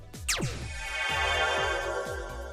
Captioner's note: Beam Me Up noise